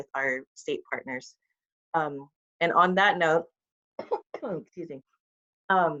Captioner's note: coughs